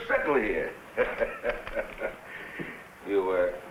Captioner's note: barber chuckles